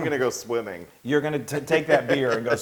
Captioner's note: laugh